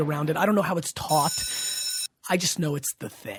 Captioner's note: school bell rings